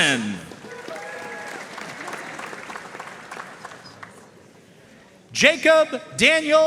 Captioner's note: audience cheering and applauding